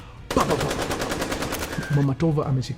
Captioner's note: gunshots